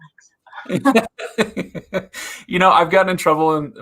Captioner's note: laughs